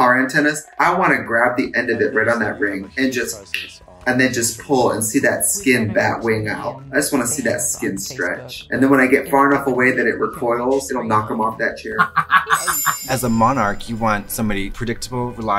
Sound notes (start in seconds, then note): 3.8 tongue clicks; 11.8 Katya laughs